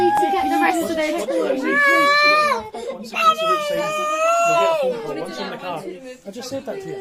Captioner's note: baby crying